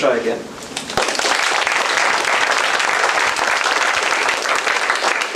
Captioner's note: applause